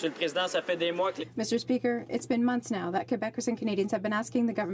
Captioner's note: applause